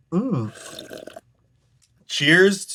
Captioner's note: slurps